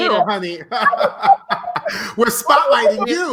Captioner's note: laughing